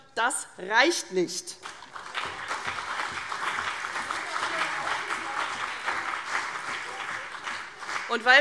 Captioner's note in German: Beifall CDU und BÜNDNIS 90/DIE GRÜNEN